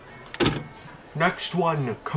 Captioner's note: Walkman stops